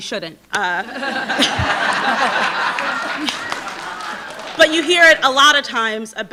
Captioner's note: audience laughing